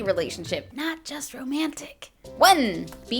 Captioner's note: whispering